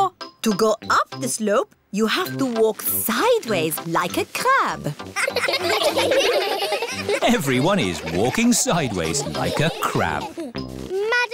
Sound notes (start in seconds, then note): 5.1 laughing